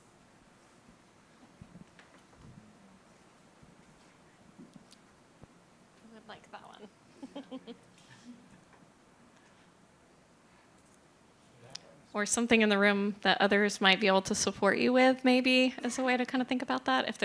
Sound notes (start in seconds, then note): 7.2 laughs